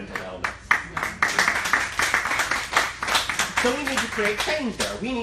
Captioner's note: applauding